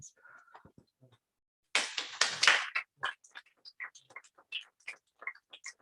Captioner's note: applause